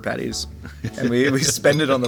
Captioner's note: J.K. laughing